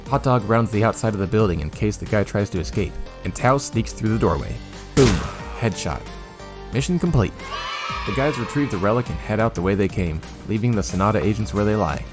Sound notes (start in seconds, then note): 5.0 gunblast; 7.4 children cheer excitedly